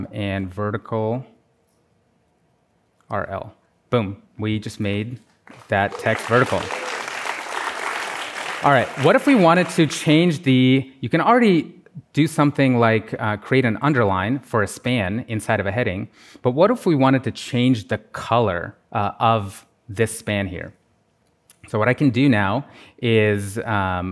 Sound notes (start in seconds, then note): 5.4 applause